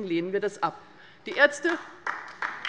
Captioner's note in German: Beifall bei der LINKEN